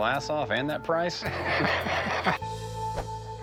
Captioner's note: laughter